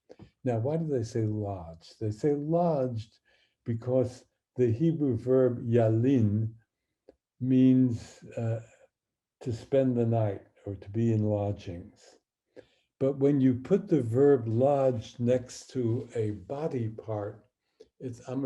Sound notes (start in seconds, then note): 5.6 speaking hebrew